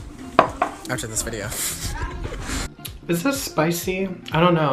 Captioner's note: laughs